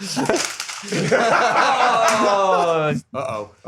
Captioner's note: laughter